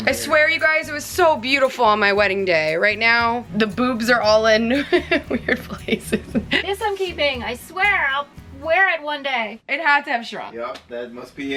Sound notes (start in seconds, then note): 4.7 laughs